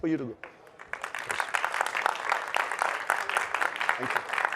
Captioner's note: crowd claps